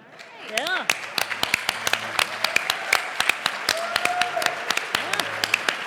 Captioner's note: applause